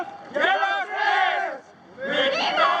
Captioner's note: crowd